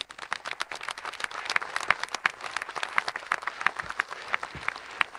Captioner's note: audience applauding